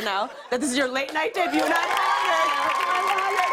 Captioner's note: cheers and applause